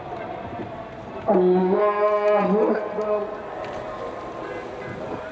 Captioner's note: prayers